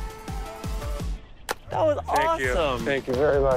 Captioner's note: hands slap